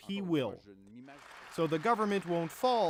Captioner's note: speaking French